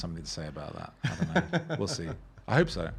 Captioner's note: laughing